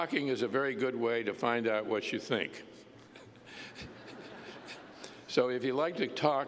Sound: laughter

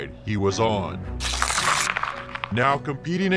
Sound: paper ripping

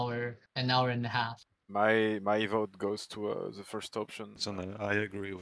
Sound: on the radio

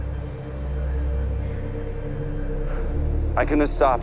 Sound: exhales sharply

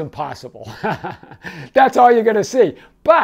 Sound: laughing

